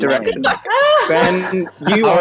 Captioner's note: Jessie and Amita laugh